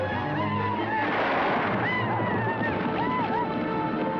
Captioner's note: gun firing